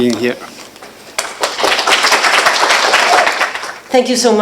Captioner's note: applause